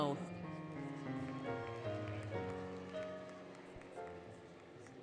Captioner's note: applause, Cheering, Music